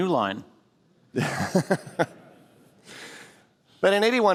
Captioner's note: laughter